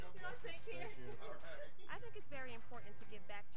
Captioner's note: laughing